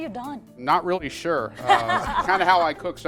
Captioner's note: all laughing